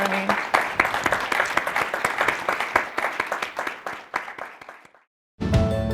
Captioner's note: applause